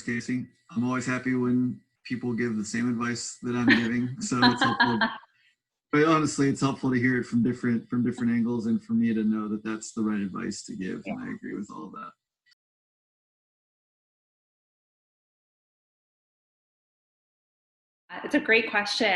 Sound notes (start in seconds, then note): 4.4 laughing; 12.5 silence